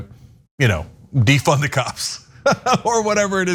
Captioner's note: laugh